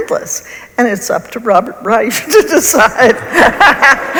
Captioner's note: laughs